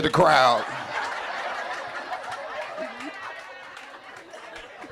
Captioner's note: audience laughing